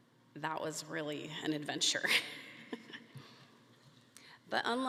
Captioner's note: laughs